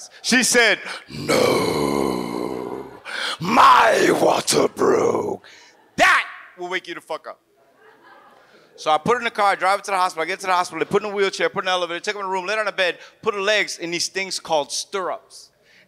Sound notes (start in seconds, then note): 7.6 audience laughs